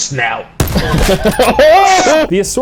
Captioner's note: laughing / surprise